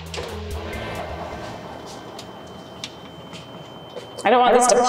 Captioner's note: music echoing; oven door opens